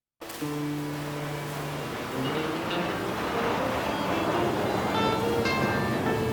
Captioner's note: Ήχος αεροπλάνου